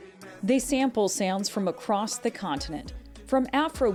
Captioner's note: voice-over